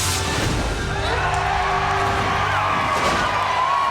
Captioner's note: students cheering